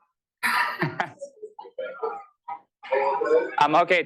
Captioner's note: laughter